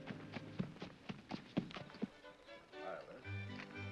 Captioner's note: hoofbeats; band plays